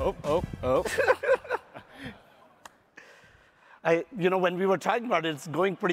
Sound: laughs

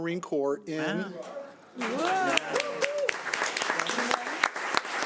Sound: audience cheering

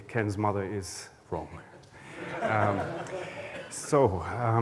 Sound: laughter

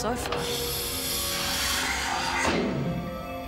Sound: gears hissing; tense music

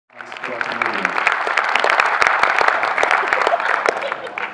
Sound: audience clapping; woman laughing

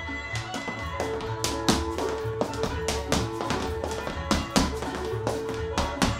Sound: upbeat instrumental music; shoes clicking on floor

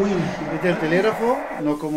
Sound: Spanish

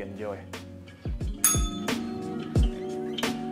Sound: upbeat music; bell rings

